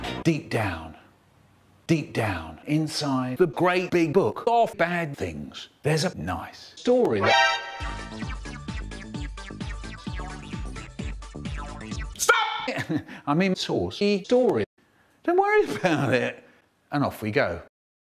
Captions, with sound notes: Deep down... Deep down inside the Great Big Book of Bad Things... There's a nice story that I wrote about when I went back in time to kill Hitler and save the world. (MGS Alert Sound) STAHP! Eh heh... I mean, SOURCE-Y story. Don't worry about it! And off we go...